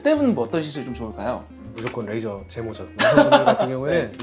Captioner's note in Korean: 웃음